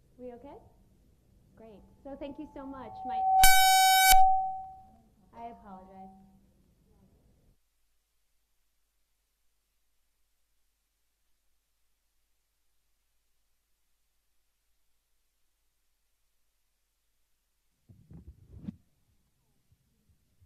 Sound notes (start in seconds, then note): 2.6 mic feedback